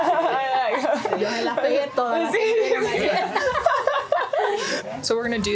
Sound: all laughing; speaking foreign language

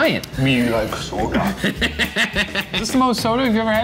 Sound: laughs

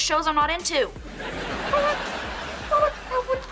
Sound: stammering

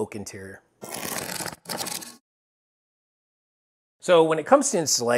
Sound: cardboard ripping

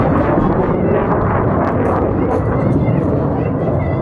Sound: child 1 yelling

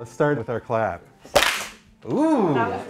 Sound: synchronized group clap

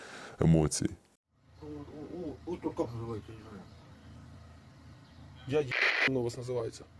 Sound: interrogating a POW in Russian

